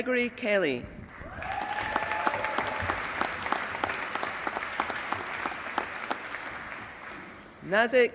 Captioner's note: applause